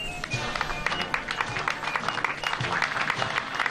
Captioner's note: applause